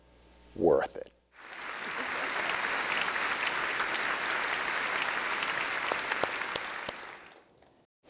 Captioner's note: applause